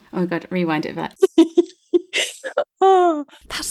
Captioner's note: laughing